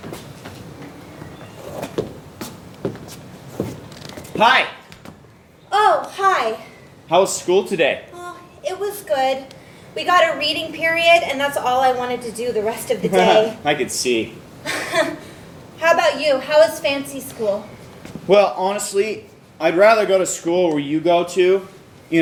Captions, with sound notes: - Hi. - Oh, hi. - How was school today? - It was good, we got a reading period, and that's all I wanted to do the rest of the day. - (laughs) I could see. - (chuckles) How about you, how was fancy school? - Well, honestly, I'd rather go to school where you go, too.